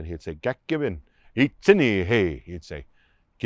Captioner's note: Spoken in Aaniiih